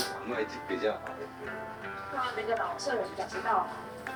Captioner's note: background radio chatter